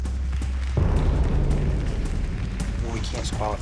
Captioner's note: applause; tense music